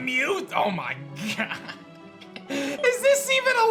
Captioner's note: giggles